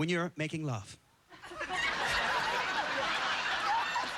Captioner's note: laughter